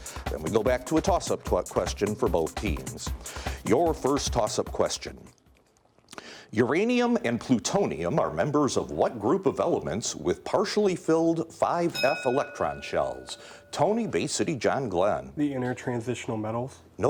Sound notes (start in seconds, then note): 11.9 bell dinging